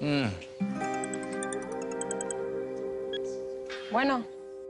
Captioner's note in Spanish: Suena el celular